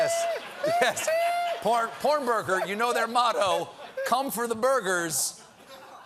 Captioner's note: laughter